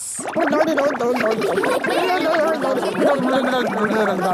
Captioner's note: children laughing